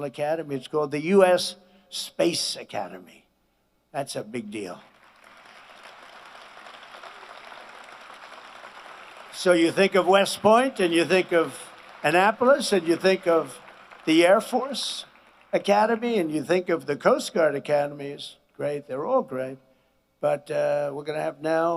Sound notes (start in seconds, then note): 13.5 applause